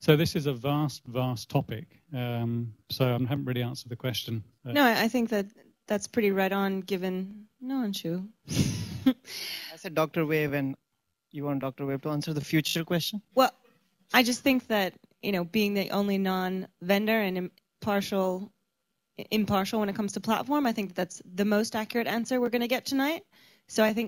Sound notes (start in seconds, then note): 8.5 laughs